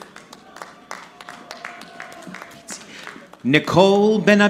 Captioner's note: audience clapping